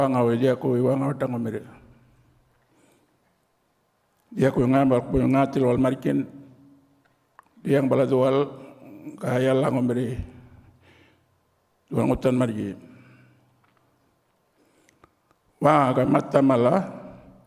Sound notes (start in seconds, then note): 1.5 continues to speak native language